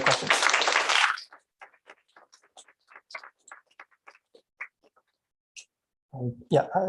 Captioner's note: applause